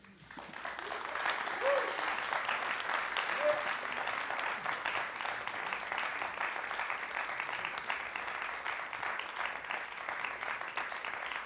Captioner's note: applause